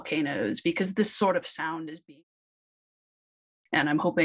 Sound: voice trails

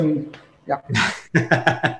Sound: laughs

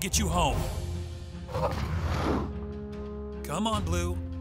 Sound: blue roaring

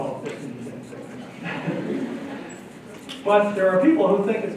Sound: laughter

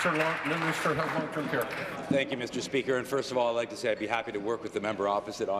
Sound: applause

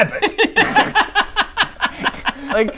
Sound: condescending laughter

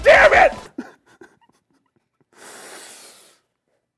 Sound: cries; exhales

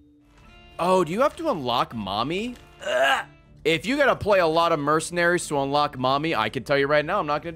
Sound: retches

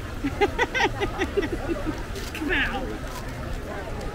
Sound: laughing

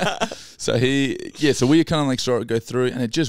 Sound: laughing

